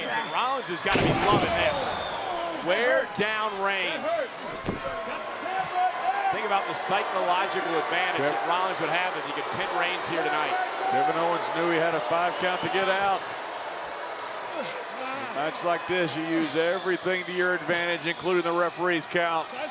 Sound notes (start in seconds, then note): 5.0 crowd cheers